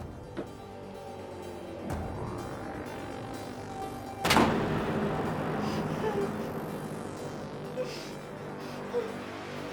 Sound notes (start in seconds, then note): 0.3 dramatic music; 4.4 door banging; 6.7 Kathy whimpering